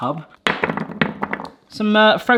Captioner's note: onion rings thudding